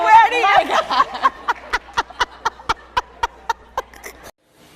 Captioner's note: laughs